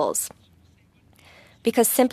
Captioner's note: speaking French